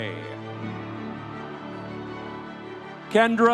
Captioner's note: audience cheering